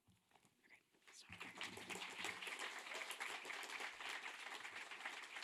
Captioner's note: audience applauding